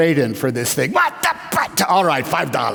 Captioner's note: grumble